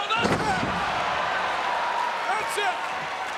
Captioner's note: crowd cheering